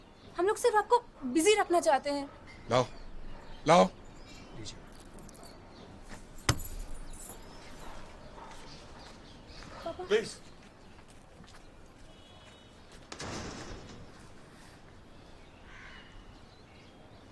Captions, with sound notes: We want you to keep busy as always. Give me, give me! - Papa. - Please! [distant thud]